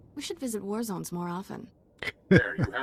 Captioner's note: laughs